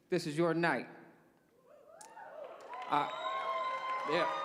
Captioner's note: cheers